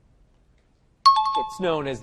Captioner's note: time chime